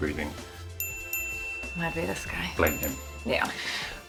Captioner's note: bell chiming